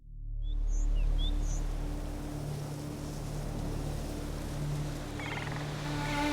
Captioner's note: birds chirping, leaves rustling